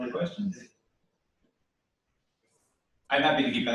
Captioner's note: pause